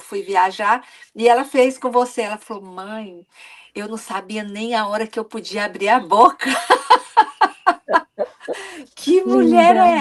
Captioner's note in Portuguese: risadas